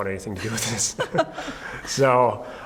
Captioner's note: laughing